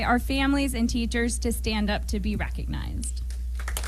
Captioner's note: applause